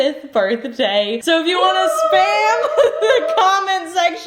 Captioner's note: whooping